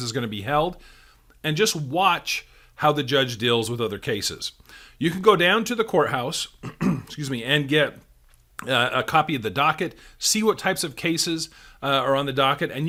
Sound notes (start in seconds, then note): 6.6 clears throat